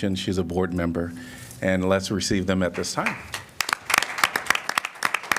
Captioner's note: applause